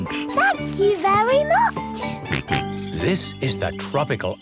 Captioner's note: George snorts